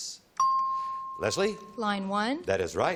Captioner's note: pings